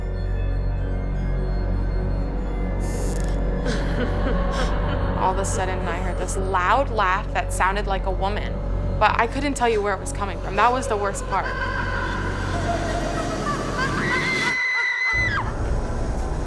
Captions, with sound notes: (floor board creaks) (woman laughs) - All of a sudden, I hear this loud laugh, that sounded like a woman, but I couldn't tell you where it was coming from. That was the worst part. (woman laughs) (screams)